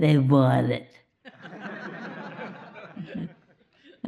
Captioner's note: laughter